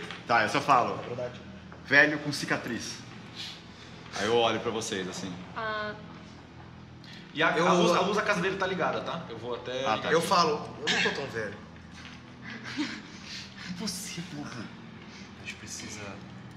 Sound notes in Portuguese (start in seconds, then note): 12.4 Risos